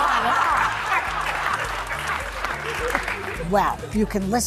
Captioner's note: audience laughing